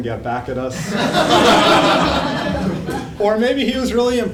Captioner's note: laugh